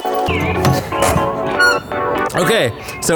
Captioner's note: lighthearted music; car door creaking